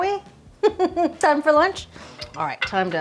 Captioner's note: laughing